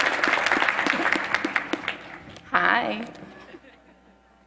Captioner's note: applause